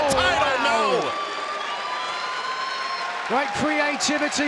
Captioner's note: audience cheers